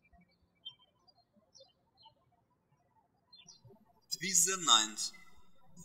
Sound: birds chirping

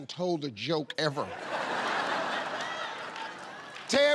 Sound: laughter

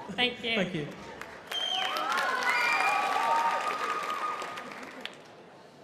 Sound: crowd clapping and cheering

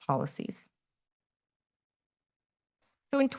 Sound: pause

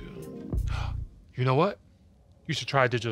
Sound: gasps

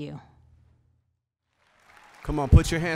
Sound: applause

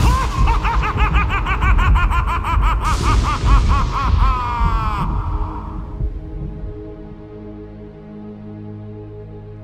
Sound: Horrible Horseman Guffaw

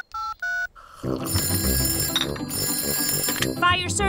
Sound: dialing; phone rings

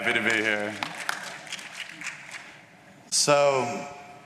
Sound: applause

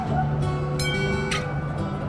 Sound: tram bell dings

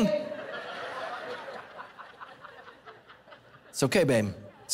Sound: congregation laughing

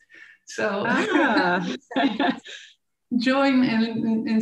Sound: laughing

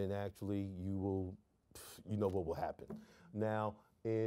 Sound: none

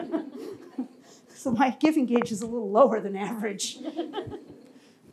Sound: laughs

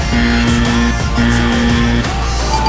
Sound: buzzer

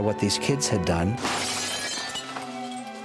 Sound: crash

